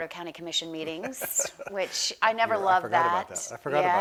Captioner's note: laughs